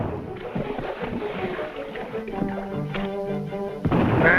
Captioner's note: gunshot firing